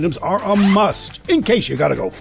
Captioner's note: bag unzips